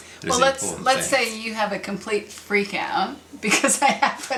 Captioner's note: chuckles